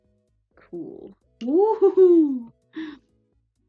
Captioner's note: gasp